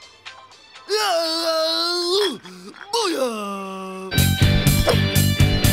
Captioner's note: grunting